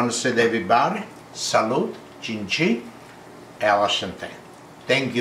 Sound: speaking different languages

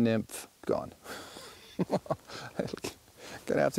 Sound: laughs

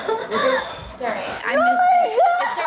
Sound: sobbing

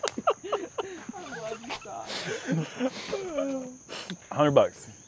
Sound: laughter

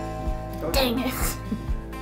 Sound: doorbell rings

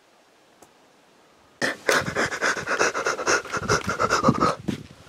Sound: escaping sniff

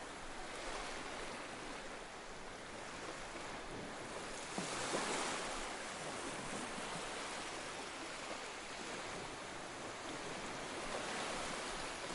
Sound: sounds of ocean waves lapping on the beach; sounds of ocean waves lapping on the beach continues

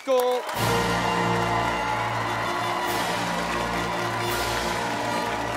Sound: cheers and applause

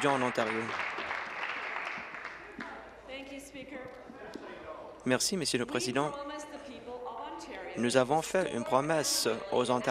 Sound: applause

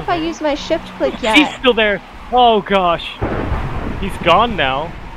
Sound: thunder rumbles

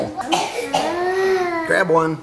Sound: gasping

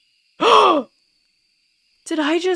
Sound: gasp

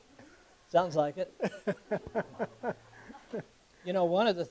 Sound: laughing

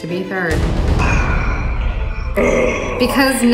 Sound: sighing heavily

